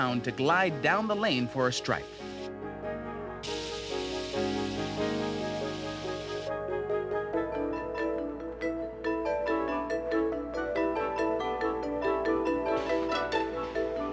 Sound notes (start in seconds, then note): 3.5 machine whirring; 7.0 bright music